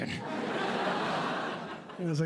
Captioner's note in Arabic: ضحك